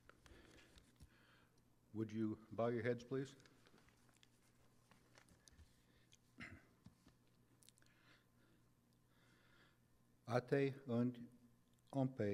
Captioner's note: silence